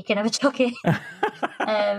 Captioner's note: laughter